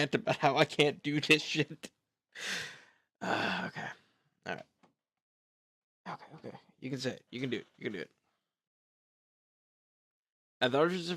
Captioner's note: sigh